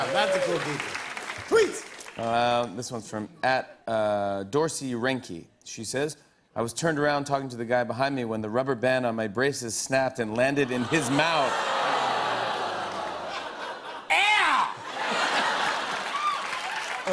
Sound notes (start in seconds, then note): 10.9 audience groans; 14.9 laughter and applause